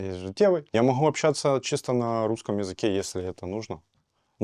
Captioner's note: speaking russian